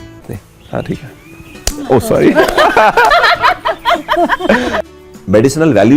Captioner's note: laughter